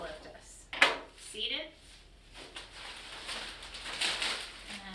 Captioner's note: crinkling